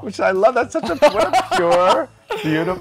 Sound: laughing

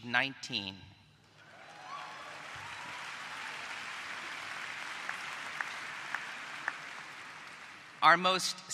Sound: applause

